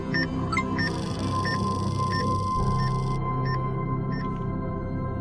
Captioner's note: EKG machine beeping; electronic chime; EKG machine beeping